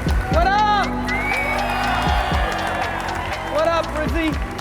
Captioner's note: audience cheers